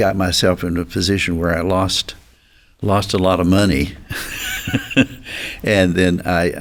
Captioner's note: chuckles